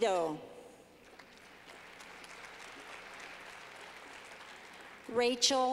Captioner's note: clapping